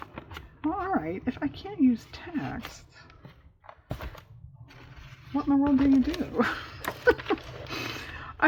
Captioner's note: laughs